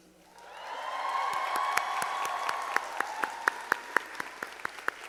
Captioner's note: audience applauding